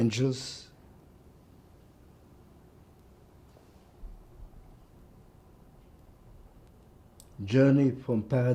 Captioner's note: pauses 6 seconds